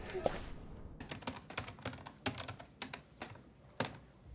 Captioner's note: typing